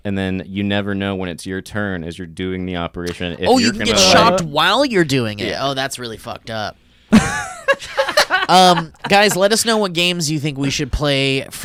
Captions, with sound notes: and then you never know when it's your turn as you're doing the operation, if you're gonna. - Oh you can get shocked while you're doing it? Oh that's really fucked up. (laughs) Guys let us know what games you think we should play